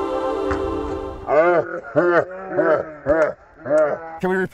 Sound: slowed down laughter

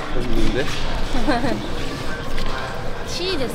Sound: laughs

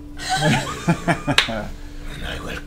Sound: all laugh

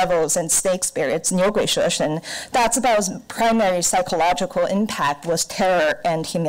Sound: foreign language

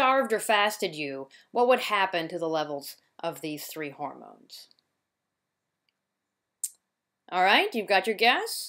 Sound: pause

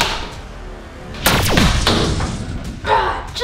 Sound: whooshing

